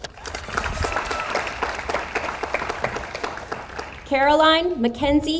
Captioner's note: audience applauds